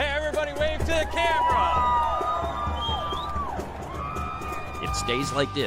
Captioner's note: crowd cheering